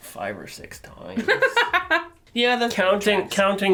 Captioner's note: laughter